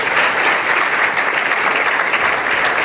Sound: applause

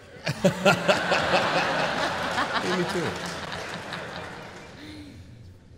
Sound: laughter

